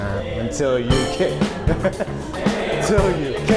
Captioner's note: chuckles